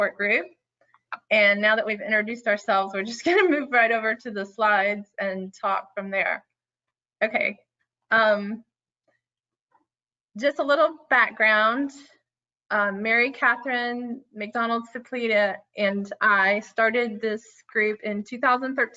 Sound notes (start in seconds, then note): none